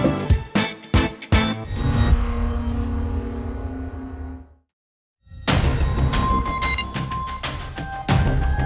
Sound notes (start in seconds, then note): 1.7 electronic swoosh; 4.5 eerie music